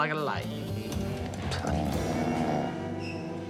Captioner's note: snoring